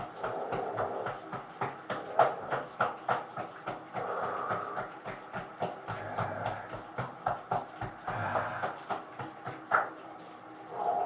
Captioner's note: light massage slaps along the chest, belly, and limbs